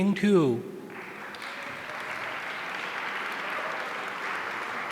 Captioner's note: audience applauding